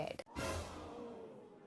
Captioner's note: shocked multitudes